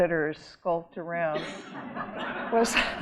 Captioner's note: audience laughing